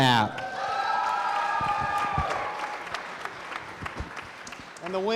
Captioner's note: crowd cheering